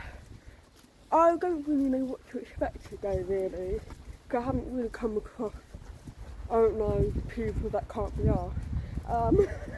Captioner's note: laughing